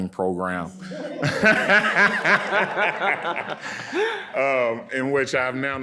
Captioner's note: audience and panelists laughing